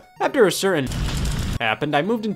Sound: fire crackling

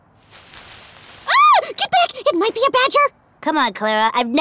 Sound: rustling; shouts

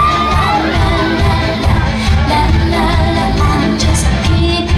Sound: audience laughs and screams

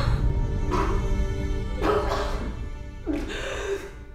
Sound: choking

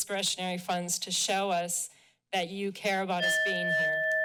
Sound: timer dings

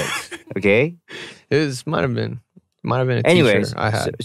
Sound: laughs

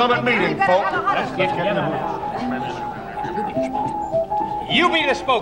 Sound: overlapping chatter

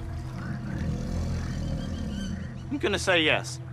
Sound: growls

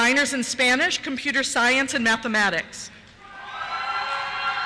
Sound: cheers

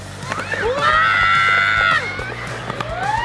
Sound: hollering

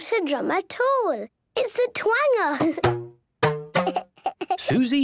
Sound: giggling

